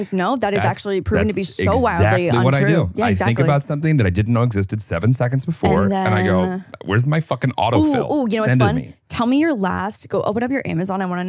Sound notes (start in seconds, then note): 5.6 laughs